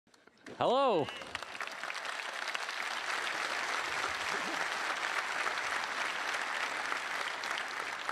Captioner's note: applause